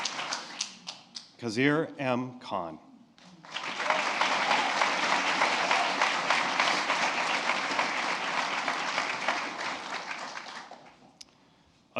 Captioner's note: applause